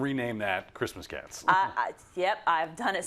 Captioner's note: laugh